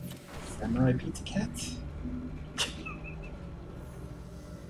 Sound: laughs softly

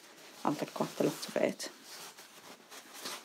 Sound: under her breath

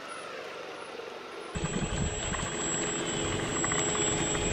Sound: engine roars

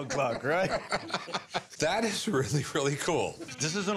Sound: laughing

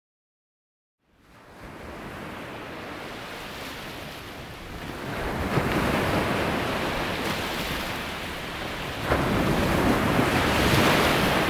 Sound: sound of rough sea

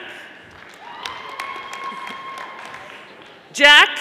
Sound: audience applauding

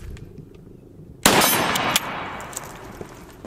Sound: gun shot

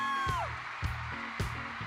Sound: cheers and applause

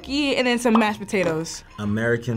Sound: bubbles popping

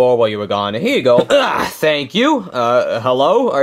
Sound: grunts

